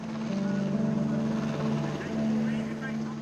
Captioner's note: helicopter blades whirring; gentle music